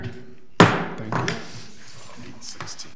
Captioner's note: gavel bangs; crowd murmuring